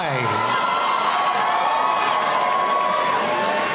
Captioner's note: cheering